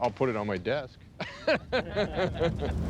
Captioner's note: laughing